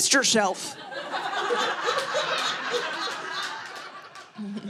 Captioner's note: audience laughing